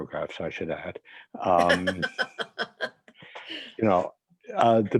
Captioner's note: laughing